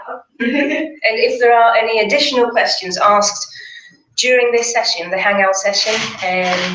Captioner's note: laugh